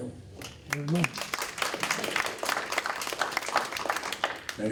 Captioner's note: applause